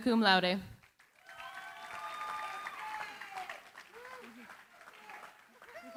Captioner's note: cheering, applause